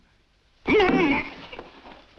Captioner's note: gags